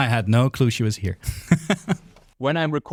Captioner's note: laughs